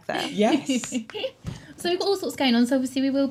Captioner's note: giggling